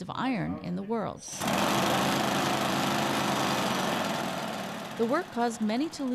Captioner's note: machine grinding